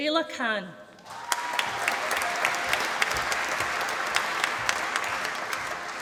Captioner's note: applause